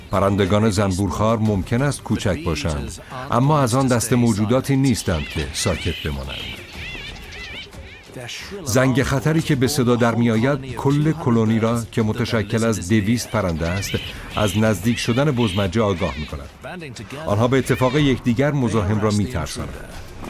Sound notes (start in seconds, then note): 4.8 squawking